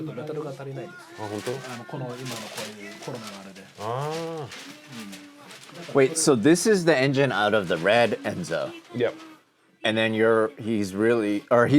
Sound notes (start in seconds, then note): 0.3 speaking Japanese; 1.5 men speaking Japanese